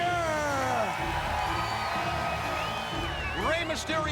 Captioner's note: crowd cheering